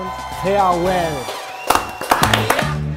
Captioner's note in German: Jubel